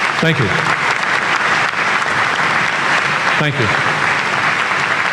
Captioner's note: applause